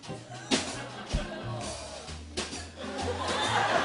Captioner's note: audience groans; laughter